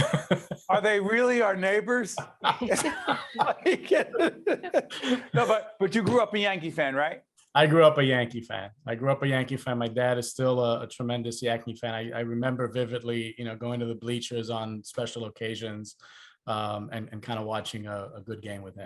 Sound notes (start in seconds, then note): 2.1 laughing